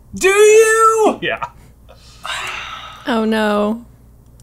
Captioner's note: heavy sigh